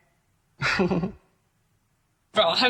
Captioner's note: laughing